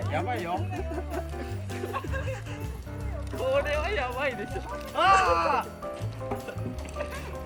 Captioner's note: laughs